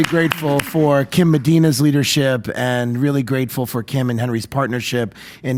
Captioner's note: applause